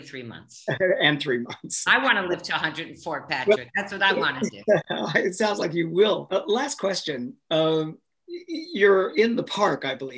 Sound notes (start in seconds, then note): 4.2 laughs